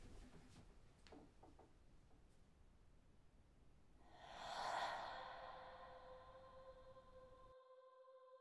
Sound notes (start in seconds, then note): 4.0 woman breathing